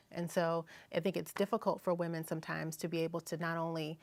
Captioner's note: none